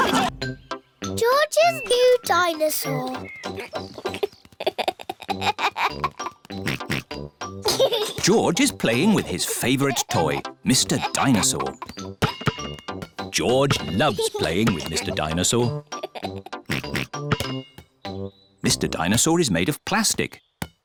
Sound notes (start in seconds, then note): 0.0 all laugh; 3.5 giggles; 6.6 oinks; 15.6 laughs and oinks